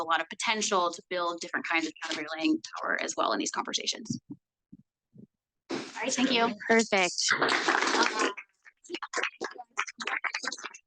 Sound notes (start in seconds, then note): 7.6 audience applauds